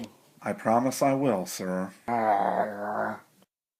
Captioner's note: growls